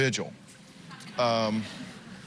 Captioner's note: laughter